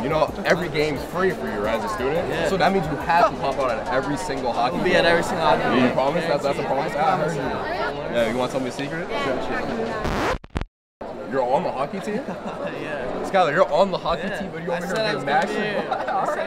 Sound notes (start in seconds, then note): 9.9 record scratch